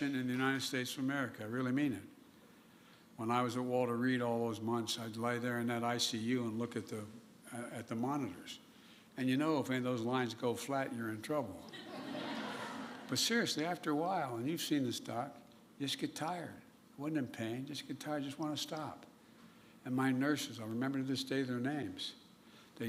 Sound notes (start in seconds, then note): 11.6 laughter